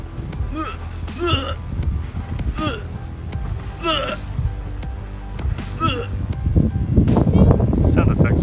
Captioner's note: mimics retching noises